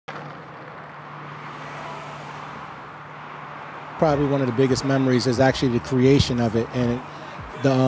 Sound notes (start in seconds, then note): 0.0 street noise